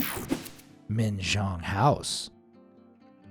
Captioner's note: cartoon swoosh